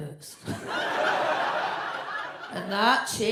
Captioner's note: audience laughs